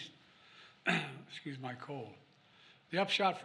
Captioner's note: coughs